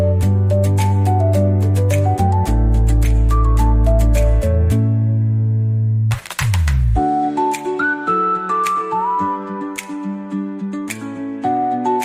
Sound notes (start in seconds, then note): 2.8 clapping